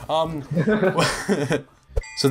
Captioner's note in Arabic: يضحكون